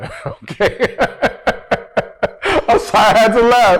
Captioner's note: laughs